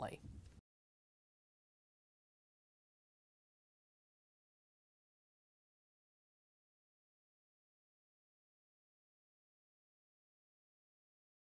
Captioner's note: no Sound Present